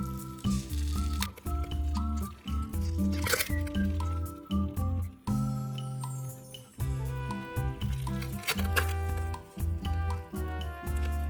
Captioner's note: sizzle, sizzle